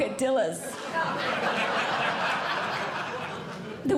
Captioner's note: audience Laughing